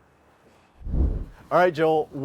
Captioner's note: dramatic whooshing